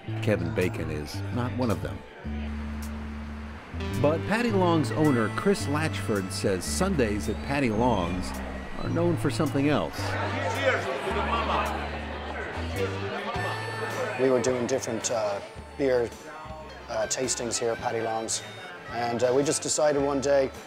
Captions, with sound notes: Kevin Bacon is not one of them. But Paddy Long's owner Chris Latchford says Sundays at Paddy Long's are known for something else. [chatter and music] >>We were doing different beer tastings here at Paddy Long's. And we just decided one day,